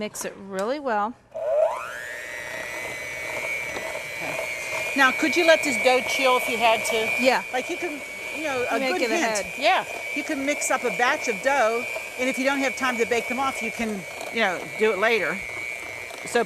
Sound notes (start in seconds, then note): 1.5 mixer whirring